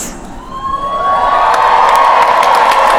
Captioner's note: cheering